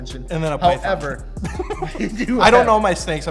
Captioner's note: laughs